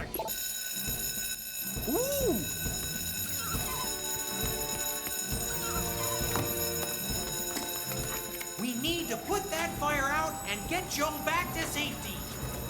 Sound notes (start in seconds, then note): 0.2 alarm Ringing; 3.3 alarm Ringing